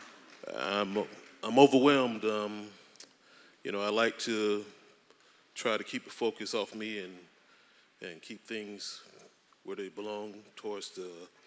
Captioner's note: applause